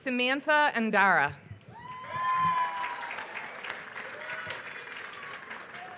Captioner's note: applause